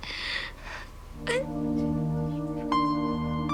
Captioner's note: sobs